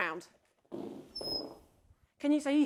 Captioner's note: ice cream whistles